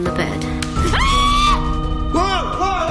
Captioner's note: screaming